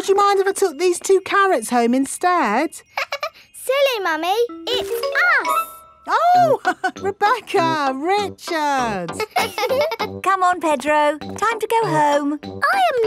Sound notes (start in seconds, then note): 3.2 laughs; 8.8 both laughing; 9.0 chuckles